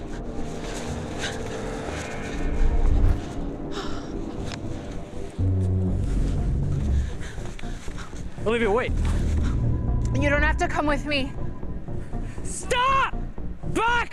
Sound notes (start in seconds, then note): 0.3 heavy breathing; 3.7 Olivia gasps